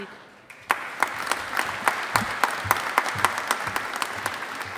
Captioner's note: audience applauding